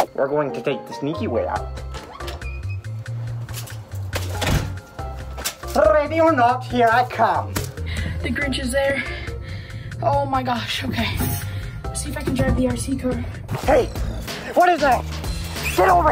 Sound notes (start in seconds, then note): 1.8 door squeaks open; 4.2 door slams